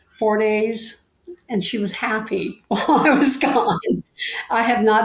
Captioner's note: laughing